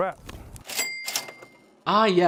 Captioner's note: cash register ringing